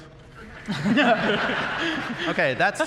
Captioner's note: laughter